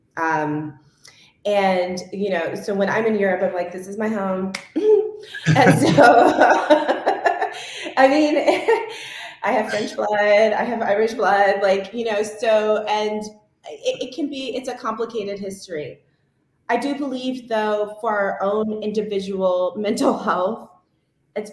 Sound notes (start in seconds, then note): 5.3 laughs